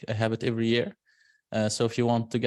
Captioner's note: none